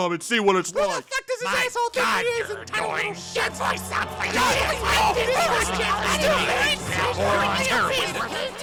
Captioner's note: everyone screaming at once